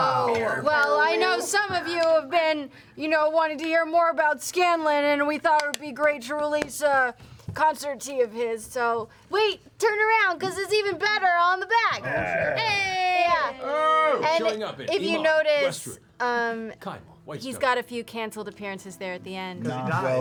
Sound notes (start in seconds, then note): 13.6 cheering